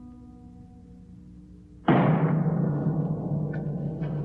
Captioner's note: piano playing; slam